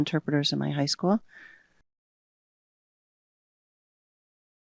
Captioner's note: no audio